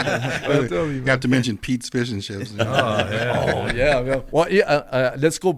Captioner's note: laughter; laughter